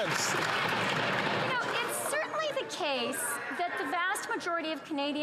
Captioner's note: some Applause